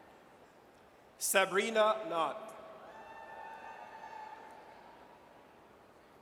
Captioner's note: audience cheers